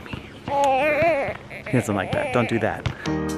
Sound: baby fussing

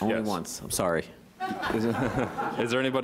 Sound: laughter

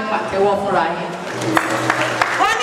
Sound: a round of applause

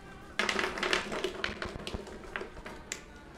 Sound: rattling

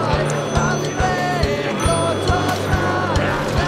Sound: phones jingling

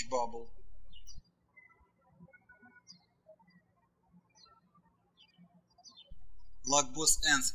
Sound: birds chirping

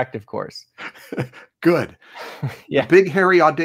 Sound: laughs

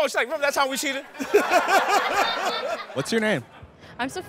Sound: laughs

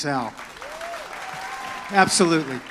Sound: audience cheers

